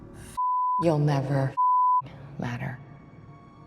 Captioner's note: beeping